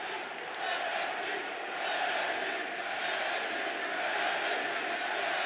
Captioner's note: crowd chants "NXT"